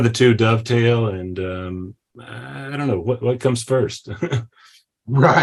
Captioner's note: chuckles